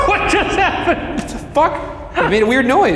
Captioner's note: laughs